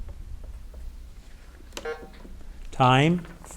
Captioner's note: button buzzing